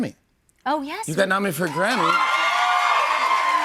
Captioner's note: cheers and applause